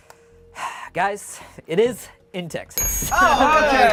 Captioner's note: bell dings; overlapping chattering